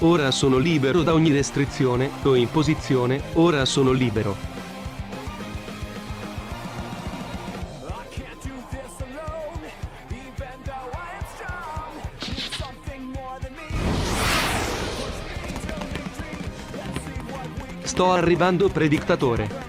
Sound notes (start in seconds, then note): 5.2 fist Bump in the background